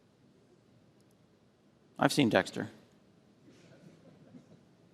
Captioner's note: laughter